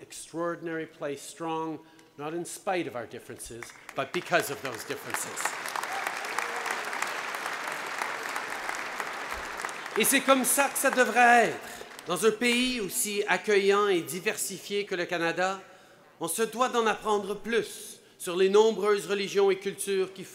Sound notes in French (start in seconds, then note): 7.3 Applaudissements